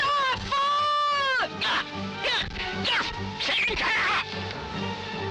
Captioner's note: barking commands